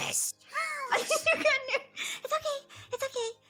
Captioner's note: laughing